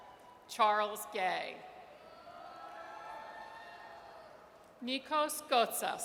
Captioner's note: audience cheers; audience cheers